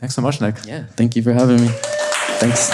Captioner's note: audience applauding